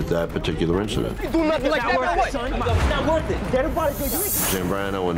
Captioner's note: indistinct shouting